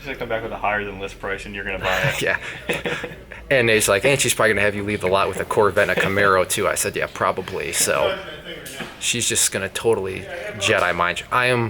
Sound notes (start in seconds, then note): 1.8 laughs